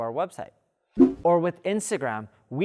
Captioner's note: air swish